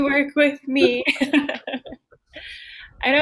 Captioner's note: laughter